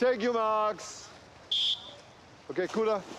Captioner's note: whistle trills